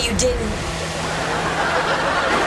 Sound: laughing

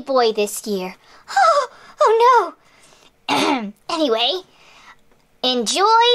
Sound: clears throat

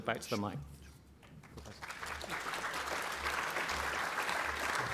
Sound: applause

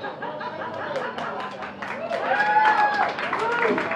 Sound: applause and laughter

